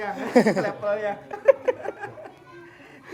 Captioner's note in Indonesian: tertawa